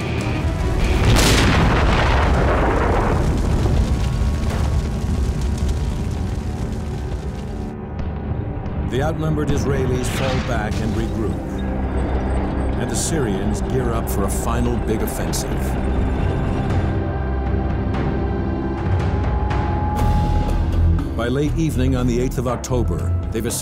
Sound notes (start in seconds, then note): 0.2 dramatic music; 0.6 explosions booming; 5.5 fire crackling; 16.6 suspenseful music